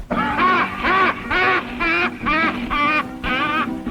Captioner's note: Mose laughing